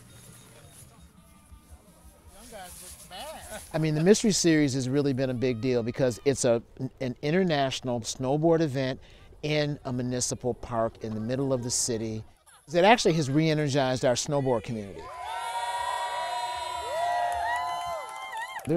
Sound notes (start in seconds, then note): 3.0 men laughing; 14.9 crowd cheering